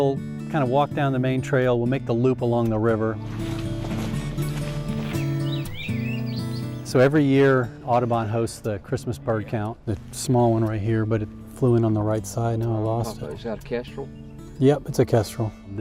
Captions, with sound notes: - We'll kinda walk down the main trail, we'll make a loop along the river. (soft guitar music) (footsteps rustling) (birds chirping) So every year, Audubon hosts the Christmas party count. Small one right here, but it flew in on the right side, and I lost it. - Is that a Kestrel? - Yep, it's a Kestrel.